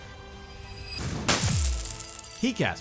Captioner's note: treasures clattering